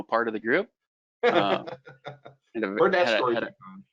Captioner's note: laughs